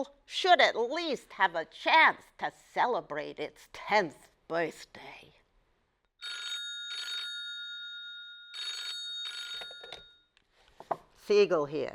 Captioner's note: phone ringing